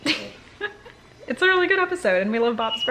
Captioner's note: laughter